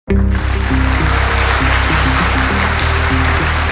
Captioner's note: applause